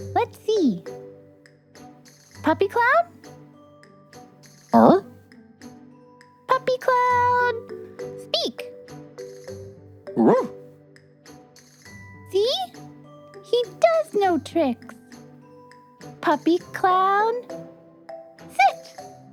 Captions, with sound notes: Let's see. Puppy Cloud? [bark?] Puppy Cloud... Speak! [bark] See? He does know tricks. Puppy Cloud... Sit!